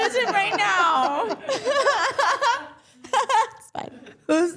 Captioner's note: all laughing